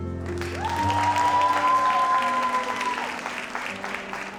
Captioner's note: audience applauds